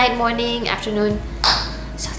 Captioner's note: clap